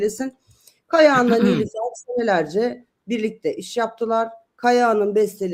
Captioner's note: boğazını temizler